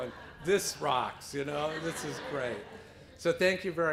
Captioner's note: laughter